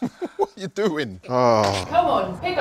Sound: groans

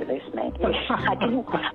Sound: laughing

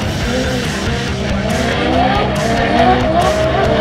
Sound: bell dings; engines revving

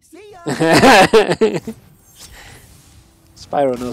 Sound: player laughs

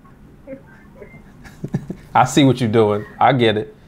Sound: laughing

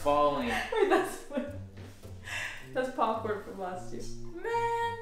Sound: laughs

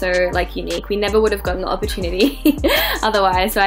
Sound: laughing

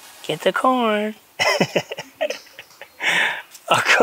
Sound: chuckles

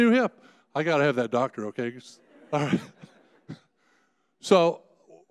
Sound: laughs

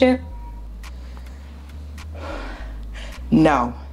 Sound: sighs

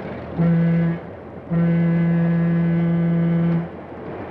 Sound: train horn blowing

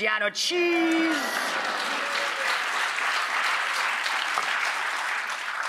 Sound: audience applauds

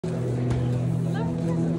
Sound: group chattering

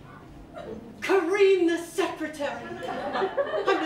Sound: laughter

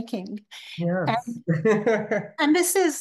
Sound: laughing

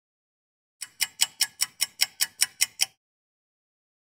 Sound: clock ticking

